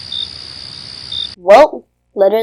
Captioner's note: crickets